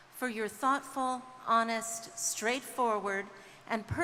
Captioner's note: none